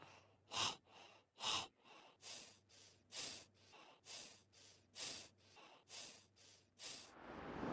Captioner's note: out of breath